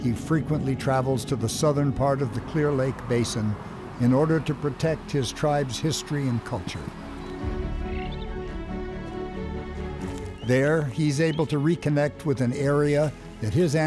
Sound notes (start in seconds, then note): 8.2 bird noises